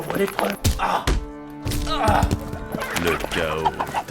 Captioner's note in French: Gémissements